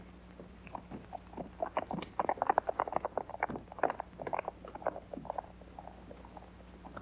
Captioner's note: hooves trotting away